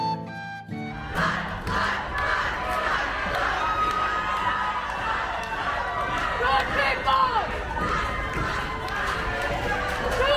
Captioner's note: applause